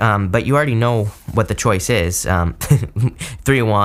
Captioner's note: laughs